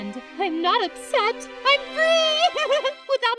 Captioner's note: laughs